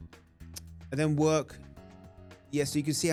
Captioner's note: lip smack